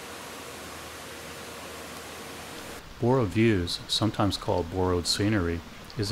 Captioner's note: waterfall sounds